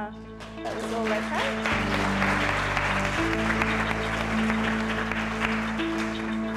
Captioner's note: applause